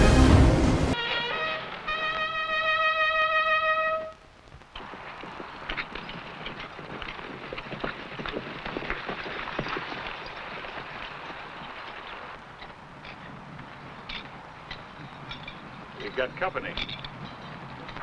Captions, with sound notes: (trumpet blaring) (horse hooves pattering) - We've got company.